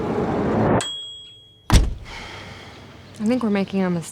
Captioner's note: timer dings